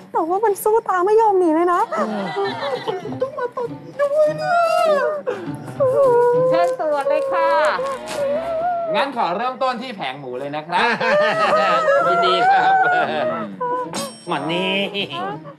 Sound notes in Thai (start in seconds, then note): 10.7 หัวเราะ